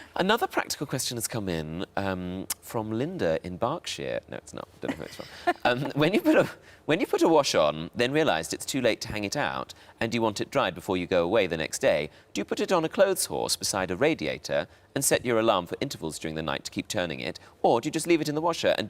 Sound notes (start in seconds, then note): 4.8 Sarah laughs; 4.9 laughs